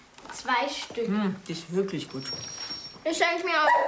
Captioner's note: speaking in foreign language